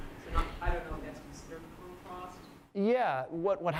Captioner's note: voiceover